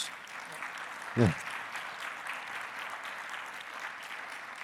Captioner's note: audience applauding